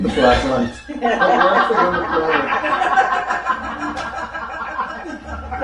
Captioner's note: group muttering and laughing